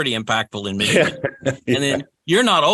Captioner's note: laughs